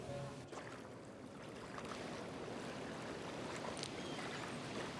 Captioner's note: water lapping